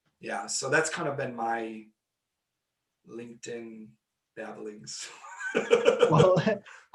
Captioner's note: laughing